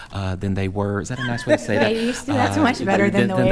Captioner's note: laughing